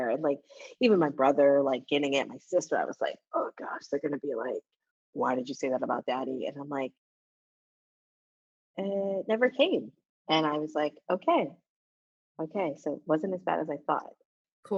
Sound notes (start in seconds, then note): none